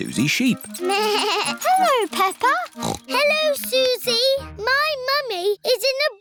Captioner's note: bell ringing; snorts; bleats